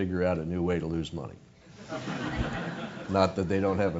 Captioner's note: laugh